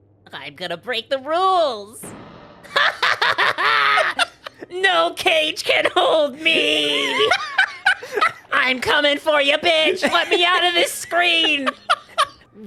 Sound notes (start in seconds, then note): 0.5 Spongebob voice; 2.7 evil laugh; 4.8 Spongebob voice; 6.4 laughing; 8.7 Spongebob voice; 9.7 laughing